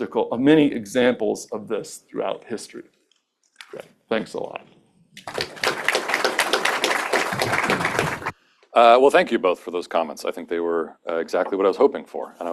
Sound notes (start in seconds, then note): 5.2 applause